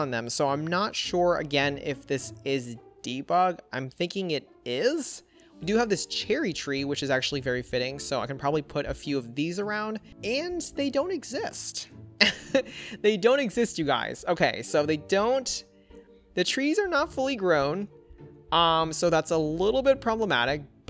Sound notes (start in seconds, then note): 12.2 chuckles